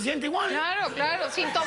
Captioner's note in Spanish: Risas